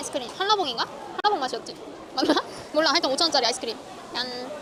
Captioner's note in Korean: 웃음